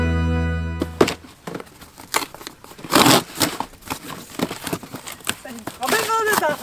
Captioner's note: sounds of parcel opening